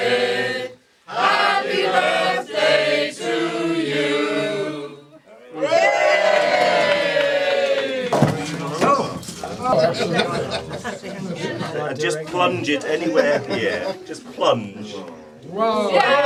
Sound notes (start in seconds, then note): 5.5 cheers